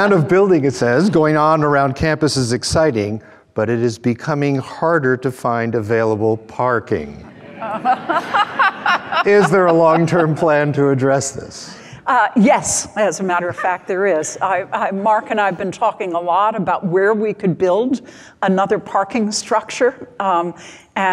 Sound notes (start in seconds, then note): 0.0 both laughing; 7.3 crowd murmurs; 7.3 laughs